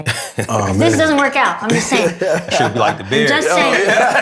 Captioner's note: laughter, overlapping chatter